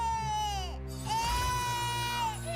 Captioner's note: cryiying